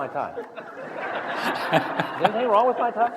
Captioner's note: laughter